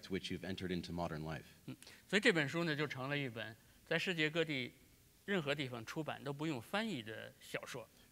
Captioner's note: speaking in Chinese